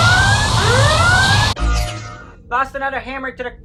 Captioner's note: sound of a forcefield turning on. The vacuum and Red-Alert siren stop